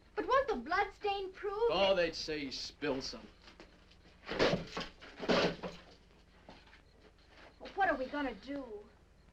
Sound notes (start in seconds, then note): 4.5 insects chirping